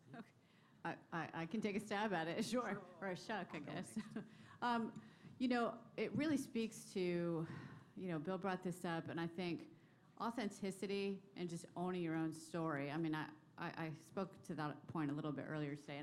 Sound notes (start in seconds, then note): 3.6 laughter